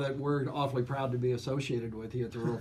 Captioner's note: laughs